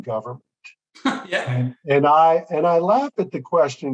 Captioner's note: chuckles